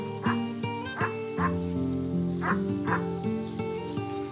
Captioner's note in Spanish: ladridos